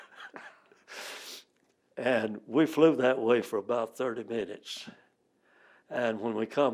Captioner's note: laughs